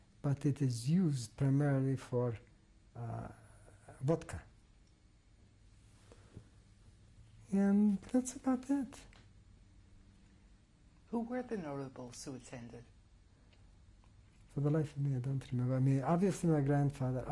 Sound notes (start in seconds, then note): 4.8 pauses for 3 seconds